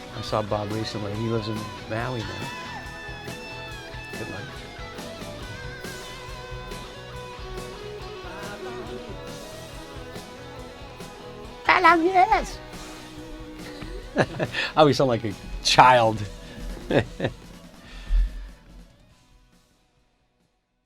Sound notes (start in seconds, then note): 13.4 laughing; 16.1 chuckles